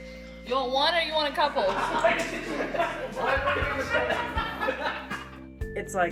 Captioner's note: everyone laughs